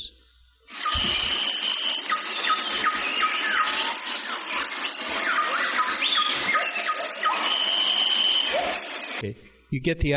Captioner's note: animal sounds